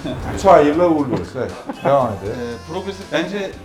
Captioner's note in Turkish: kahkaha